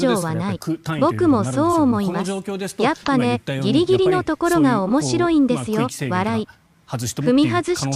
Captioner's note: laughs